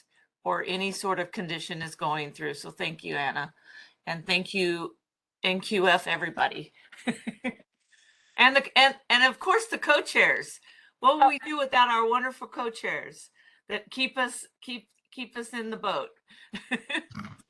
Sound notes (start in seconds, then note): 7.0 chuckles